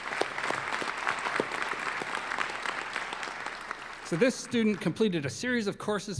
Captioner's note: applause